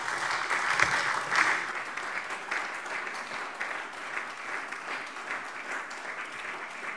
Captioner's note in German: Beifall SPD und DIE LINKE